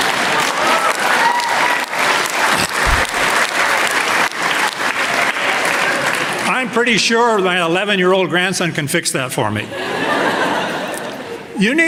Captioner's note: applause